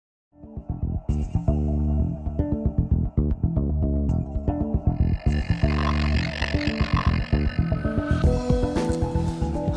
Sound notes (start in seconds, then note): 0.5 ominous music; 4.8 electric screeching sound